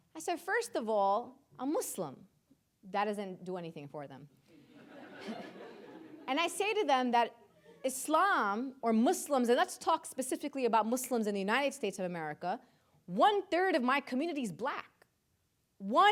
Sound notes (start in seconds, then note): 4.6 audience laughing